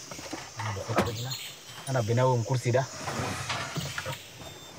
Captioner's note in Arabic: الصوت المنطوق باللغة العربية